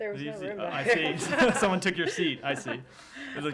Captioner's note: laughter